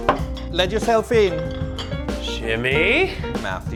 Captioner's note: items clinking